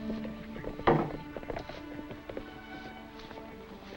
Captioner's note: muffled hooves clop